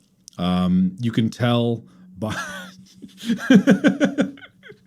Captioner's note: laughs